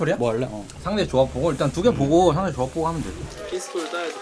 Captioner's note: BuZz